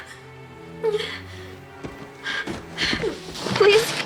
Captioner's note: whimpers